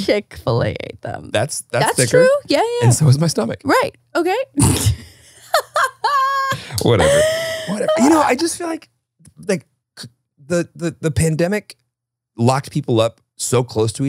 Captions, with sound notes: - Chick-fil-A ate them, that's true. - That's thicker, and so is my stomach. - Right, okay. (laughing) - Whatever, whatever, I just feel like the pandemic locked people up so close to each other